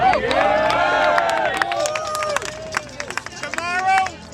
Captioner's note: cheering and applause